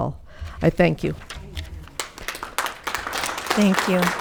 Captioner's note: audience clapping